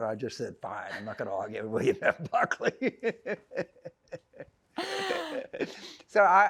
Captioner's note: laughing